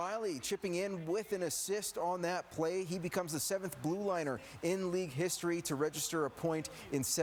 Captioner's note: cheering